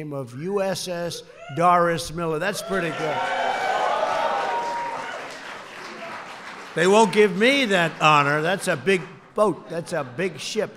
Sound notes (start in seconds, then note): 3.1 applause